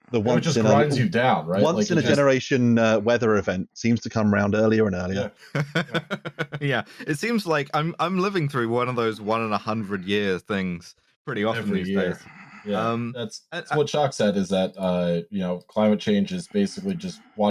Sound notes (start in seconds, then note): 5.2 laughs